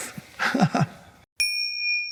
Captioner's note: Eckhart laughs; logo chimes